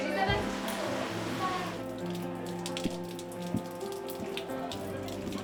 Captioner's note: soft dramatic music; rain pattering